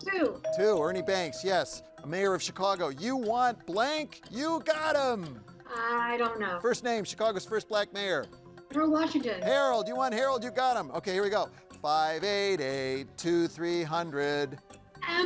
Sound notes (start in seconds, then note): 8.8 tone chimes